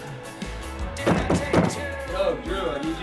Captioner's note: knocking on door